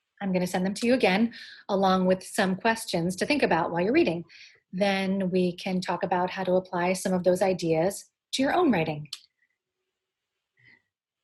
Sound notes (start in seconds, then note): none